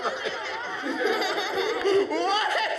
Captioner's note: laughter